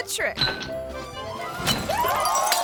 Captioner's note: bottle clinks; glass shattering